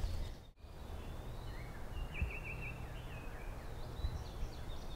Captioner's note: birds chirping